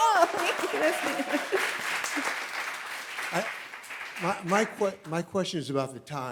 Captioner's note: audience cheering; audience applauding